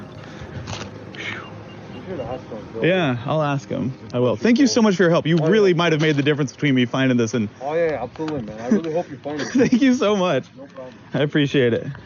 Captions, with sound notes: (sigh) Yeah, I'll ask them, I will. Thank you so much for your help. You really might have made the difference between me finding this and… Thank you so much. I appreciate it.